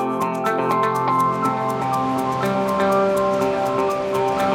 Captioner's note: bright country music; wind blowing